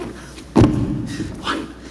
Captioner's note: hands slapping; hands and boots thudding